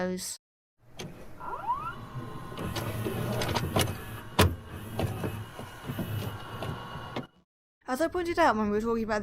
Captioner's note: VHS noises